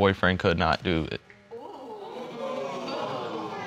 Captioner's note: audience gasping